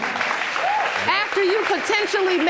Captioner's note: applause